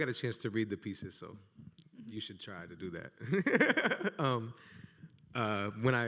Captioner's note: laughs